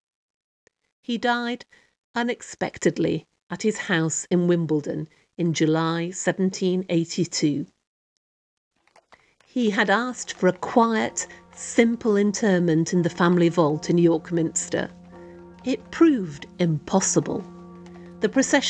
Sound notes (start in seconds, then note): 14.6 tolling bell